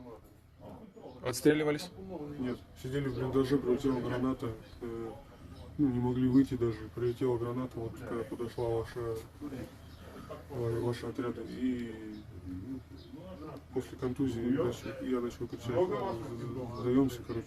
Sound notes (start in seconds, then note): 0.2 interrogating a POW in Russian; 4.2 POW speaks in Russian